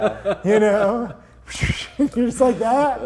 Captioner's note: laughing; imitates swishing noise